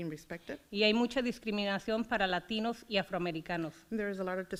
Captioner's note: foreign language